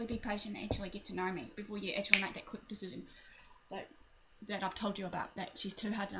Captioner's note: snaps her fingers